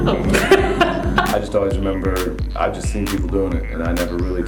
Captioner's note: laughs; voiceover